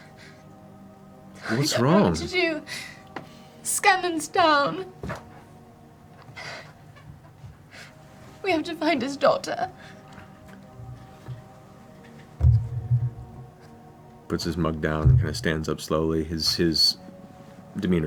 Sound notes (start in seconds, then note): 3.2 tearfully